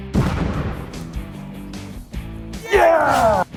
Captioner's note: clutch exploding